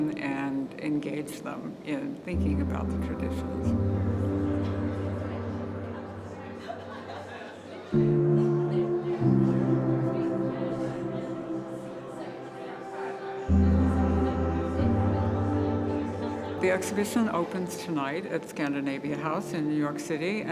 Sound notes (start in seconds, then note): 4.6 calm music; 7.7 visitors chatting